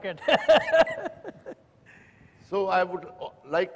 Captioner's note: laughter